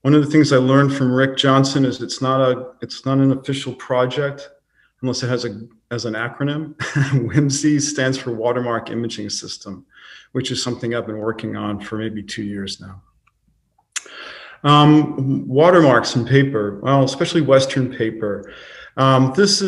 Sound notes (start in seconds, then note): 6.8 laughing